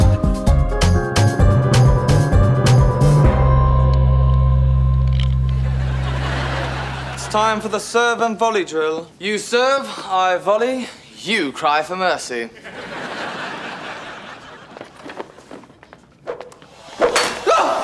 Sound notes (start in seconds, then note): 7.6 british accent